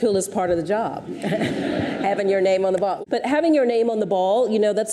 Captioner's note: audience chuckles